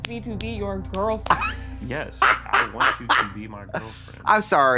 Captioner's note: Trixie cackles